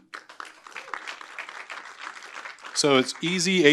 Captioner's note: applause